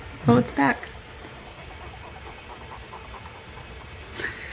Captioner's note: squeaking noise